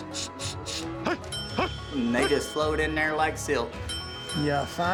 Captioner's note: dinging